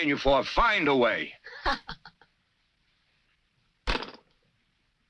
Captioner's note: chuckles